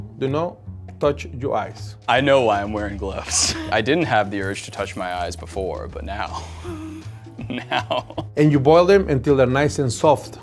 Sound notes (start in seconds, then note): 7.3 laughs